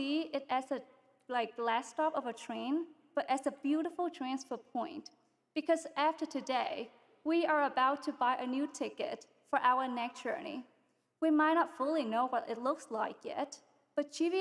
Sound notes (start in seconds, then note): none